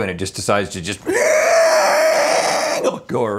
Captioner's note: dinosaur Screech